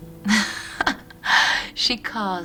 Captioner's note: laughs